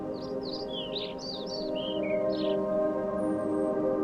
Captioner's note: birds chirping